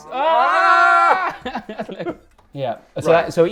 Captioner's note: both laughing